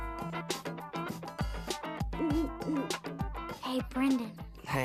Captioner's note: hooting